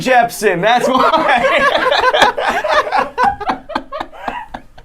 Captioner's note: laughing